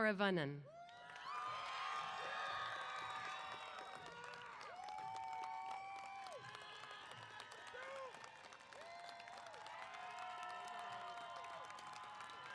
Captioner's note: applause & Cheers